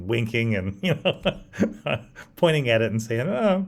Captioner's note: laughs